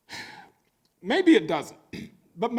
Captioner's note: sighing